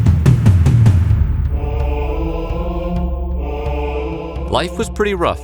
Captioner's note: chanting